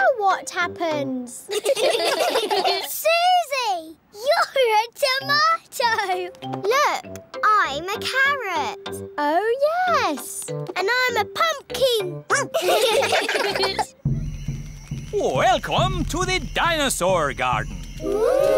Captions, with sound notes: -Now what happens? -(ALL GIGGLING) Suzy, you're a tomato! Look, I'm a carrot! Oh, yes. -And I'm a pumpkin! (BARKS) -(ALL GIGGLING) Welcome to the Dinosaur Garden.